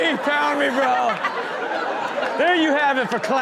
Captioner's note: all laugh